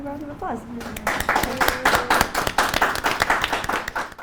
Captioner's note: audience applauds